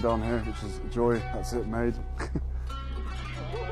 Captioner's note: laughs; slow instrumental music